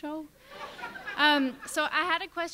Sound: laughter

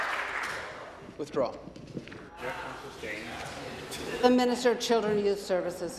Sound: applause

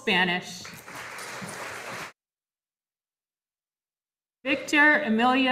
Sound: audience applauding

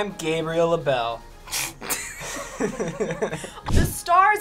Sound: everyone laughs

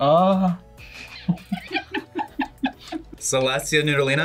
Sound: both laugh

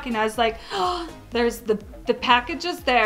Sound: gasp

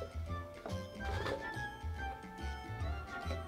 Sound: vegetables dropping

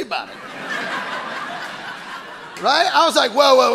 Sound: audience laughing

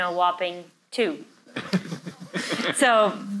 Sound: laughs

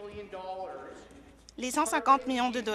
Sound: none

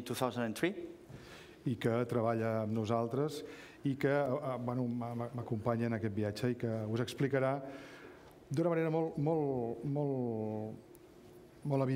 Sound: speaking catalan

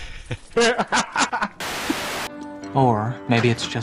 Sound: laughing

